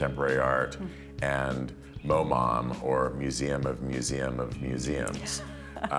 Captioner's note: laughter